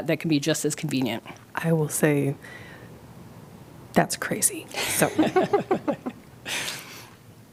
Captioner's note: laughter